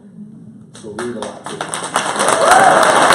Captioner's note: applause